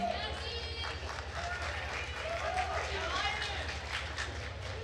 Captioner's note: attendees applauding